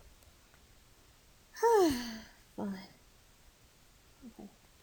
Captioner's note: instructor sighs